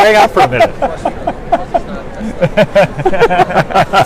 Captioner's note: laughs